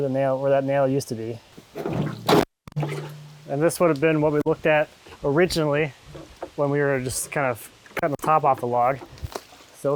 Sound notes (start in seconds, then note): 1.6 bucket scraping; 2.7 water sloshing